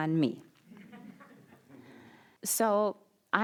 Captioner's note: audience laughing